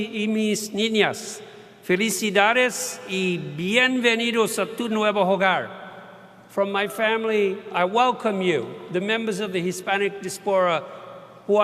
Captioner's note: speaking Spanish